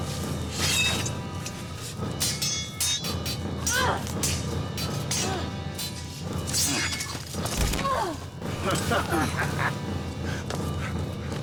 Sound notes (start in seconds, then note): 7.4 Alora grunts; 8.6 dark elf laughs